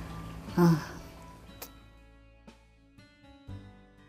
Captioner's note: sigh